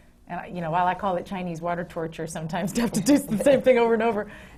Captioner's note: laughs